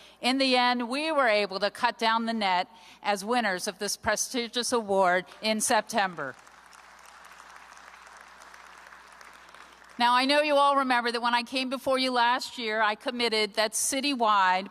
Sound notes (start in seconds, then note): 6.1 applause